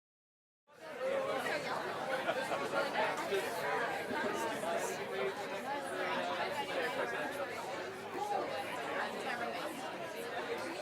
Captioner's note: background talking